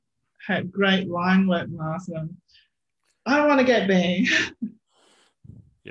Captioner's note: chuckles